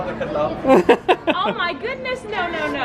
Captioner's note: laughs